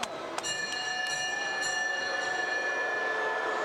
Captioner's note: bell rings